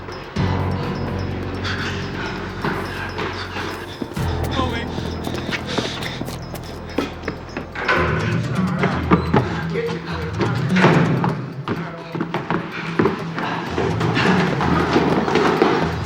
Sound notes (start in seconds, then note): 0.7 panting; 4.1 indistinct chatter; 8.4 groans